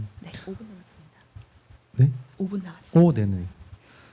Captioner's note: speaking korean